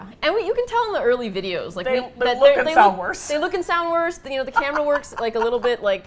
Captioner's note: laughs